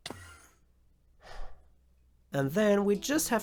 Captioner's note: sigh